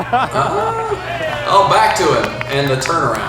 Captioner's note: announcer laughs